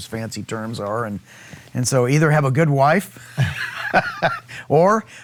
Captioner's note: laughing